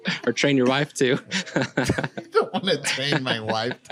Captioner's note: laughs